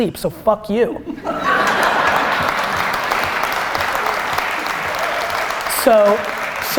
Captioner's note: laughter and applause